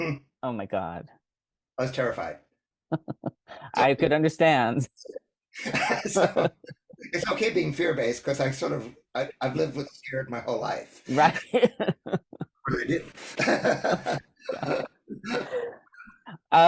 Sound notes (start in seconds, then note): 5.6 laughs